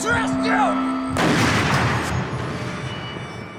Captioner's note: gunshot; gunshots